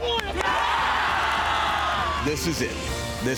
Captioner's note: team cheers